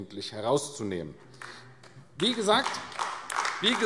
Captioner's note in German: Beifall AfD